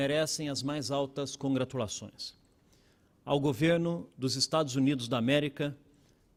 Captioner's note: speaking Portugese